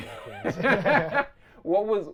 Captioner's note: both laughing